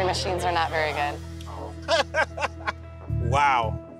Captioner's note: laughs